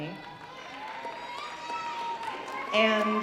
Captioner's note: audience cheering